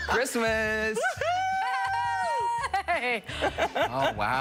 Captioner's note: laughter